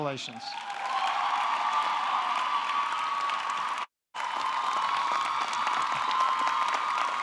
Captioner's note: audience cheering; audience clapping